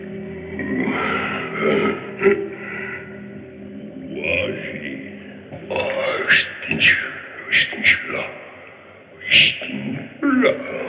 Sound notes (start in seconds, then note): 0.5 grunting gibberish; 5.6 grunting gibberish